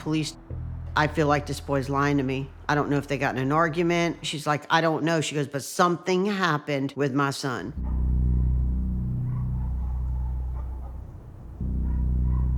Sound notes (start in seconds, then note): 7.8 dogs barking; 9.4 grim music playing